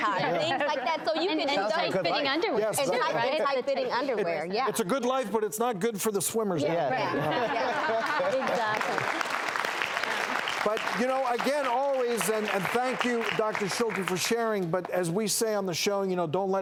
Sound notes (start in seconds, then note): 0.1 laughs; 7.8 audience claps